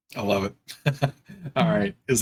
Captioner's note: chuckling